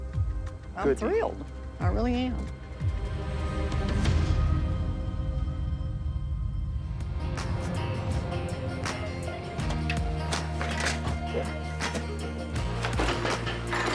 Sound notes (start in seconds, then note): 3.1 suspenseful music; 7.0 slow bluesy music; 11.2 metal clanging